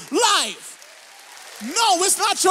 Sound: audience applauds

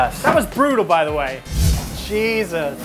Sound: wind whooshes; laughs

